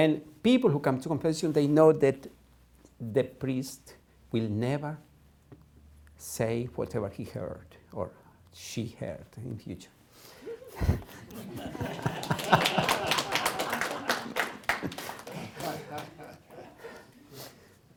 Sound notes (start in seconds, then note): 10.8 laughter, applause